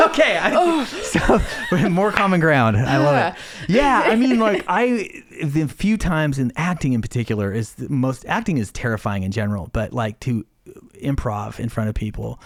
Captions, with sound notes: Okay. (laughs) More common ground. I love it. - Yeah. I mean, like I, the few times in acting in particular is the most, acting is terrifying in general, but like to improv in front of people